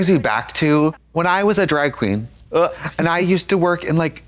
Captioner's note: Katya gags